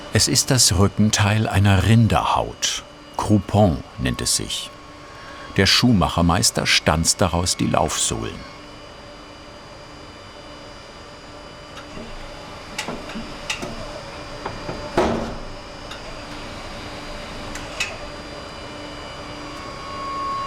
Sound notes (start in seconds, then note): 13.2 machine whirring